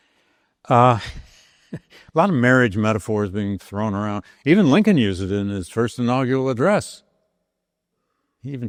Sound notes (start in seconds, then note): 0.9 laughing